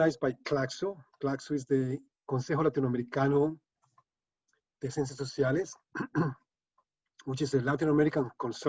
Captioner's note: speaking spanish